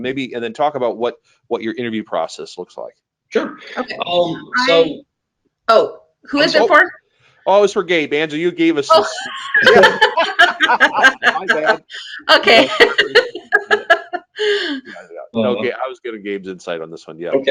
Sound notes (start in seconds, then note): 10.4 laughing; 14.3 laughing